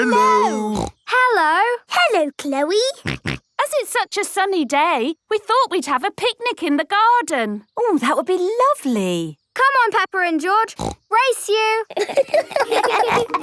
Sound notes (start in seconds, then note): 3.0 snorting; 11.9 laughter